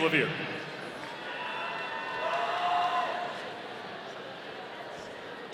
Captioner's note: audience cheering